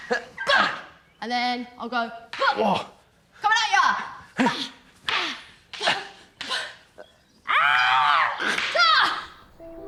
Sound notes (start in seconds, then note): 4.6 screaming